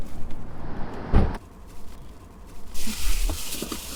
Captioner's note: car door bangs; plastic bag rustling